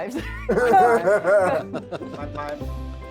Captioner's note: group laughs